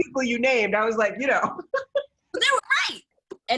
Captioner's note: laughter